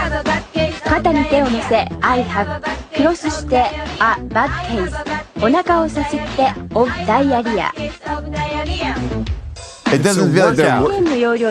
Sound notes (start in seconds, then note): 1.7 woman speaks in a foreign language